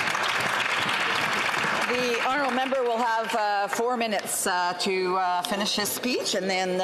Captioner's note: some Applause